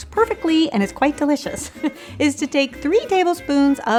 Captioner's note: laughs